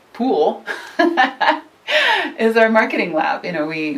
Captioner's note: laughs